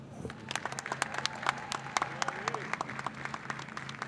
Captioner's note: audience claps